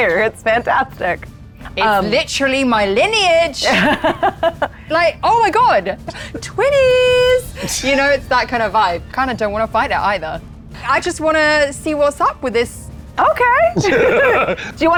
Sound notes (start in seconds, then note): 3.6 laughing